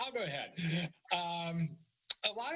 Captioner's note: laughter